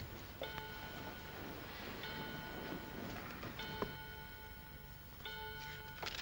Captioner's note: clock chimes; paper rustles